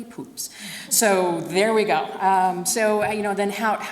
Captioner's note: audience laughs